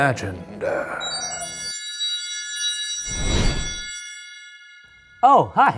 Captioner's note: fire whooshes; high pitched organ music